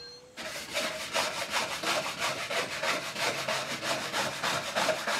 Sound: sanding on cabinet

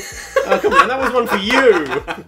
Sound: laughs

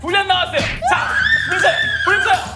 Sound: screaming

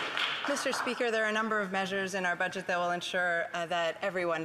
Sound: applause

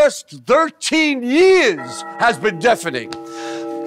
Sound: alarm goes off

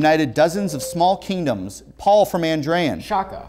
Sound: beeping

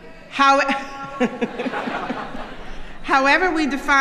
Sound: chuckling

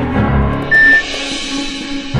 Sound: electronic beep

